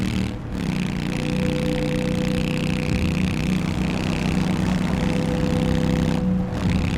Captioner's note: engine revs